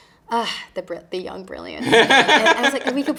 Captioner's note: interviewer laughing